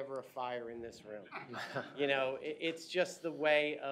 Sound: laughter

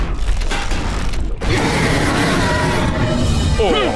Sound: screeching

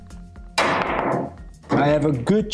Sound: ball clanging

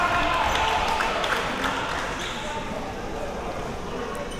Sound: applause

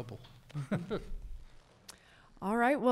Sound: chuckles

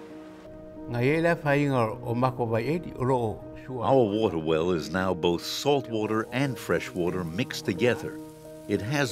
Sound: foreign language

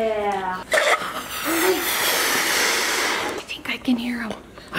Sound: blows air

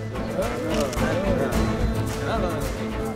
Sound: indistinct chatter

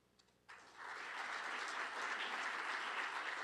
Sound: applause

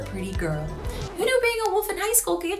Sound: record scratching

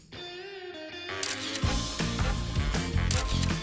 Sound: camera click; funky music; camera click; funky music; camera click

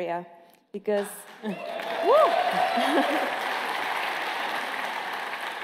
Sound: applause

